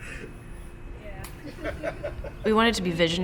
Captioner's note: laughter